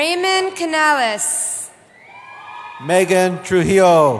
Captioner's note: cheering